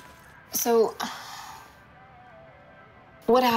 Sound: sigh

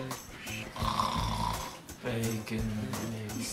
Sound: snoring

